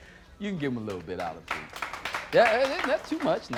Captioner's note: applause